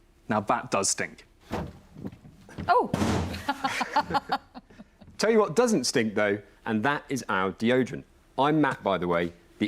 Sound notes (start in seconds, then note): 3.4 laughs